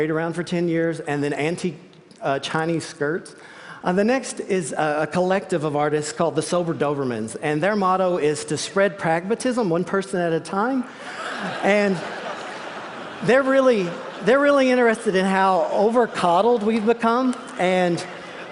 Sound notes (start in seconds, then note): 10.9 laughter